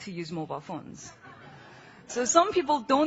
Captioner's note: laughing